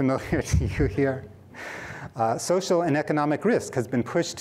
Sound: laughter

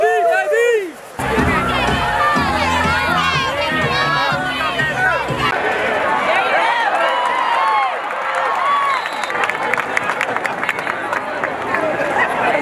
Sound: stadium noise

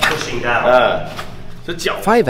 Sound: laughs

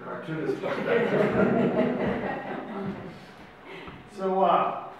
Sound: audience laughs

